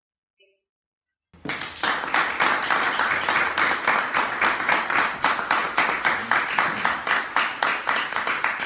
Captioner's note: applause